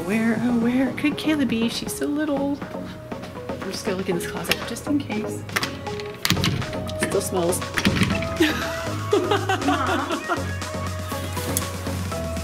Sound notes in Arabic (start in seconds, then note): 8.2 يضحك